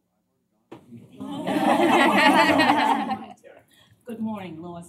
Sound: laughter

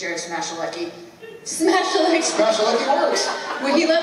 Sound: laughs

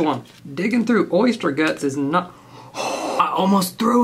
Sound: gasps

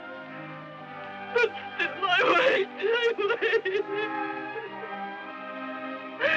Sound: sobbing

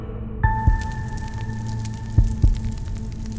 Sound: heart beating

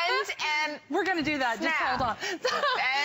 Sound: laughter

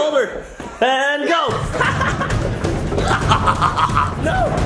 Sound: laughing

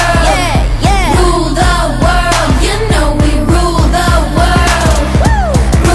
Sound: woo

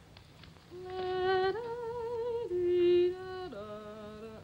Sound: humming tune

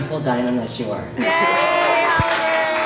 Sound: crowd cheering and clapping

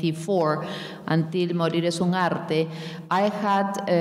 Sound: speaking in a foreign language

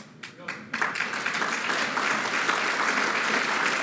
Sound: applause

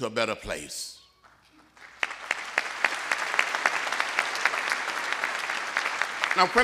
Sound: applause

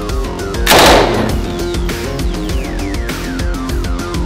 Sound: gun firing

